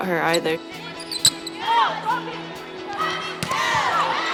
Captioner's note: team cheering